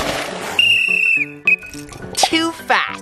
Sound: water splashes; whistle blows

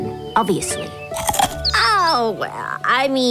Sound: crunching

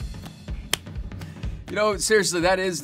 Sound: claps

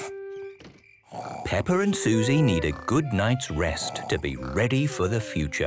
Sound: Peppa and Suzy snoring

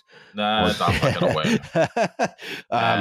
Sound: laughs

